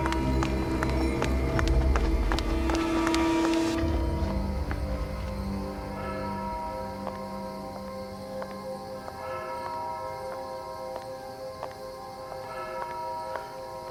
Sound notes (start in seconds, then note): 1.8 suspenseful music; 8.0 footsteps